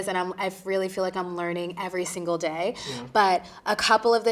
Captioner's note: none